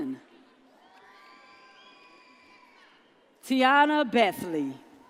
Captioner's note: audience cheers